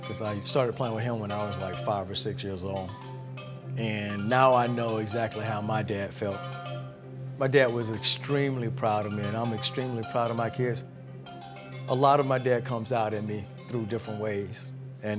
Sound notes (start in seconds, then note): none